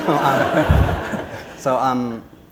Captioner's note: laughter; foreign language